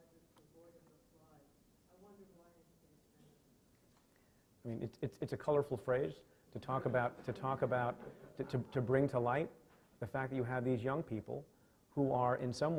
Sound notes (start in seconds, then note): 5.3 stutters; 6.9 laughing